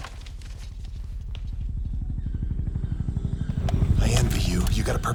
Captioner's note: helicopter flutters